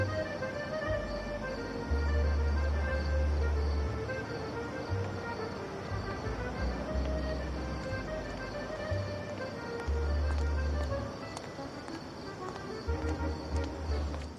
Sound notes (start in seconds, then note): 3.5 crickets; 9.1 distant music